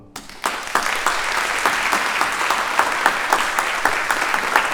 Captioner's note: audience applauding